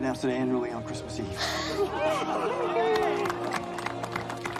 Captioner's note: cheheering, applauding